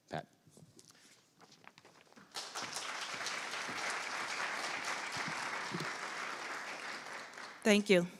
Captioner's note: applause